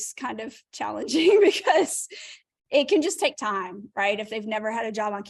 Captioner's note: laughter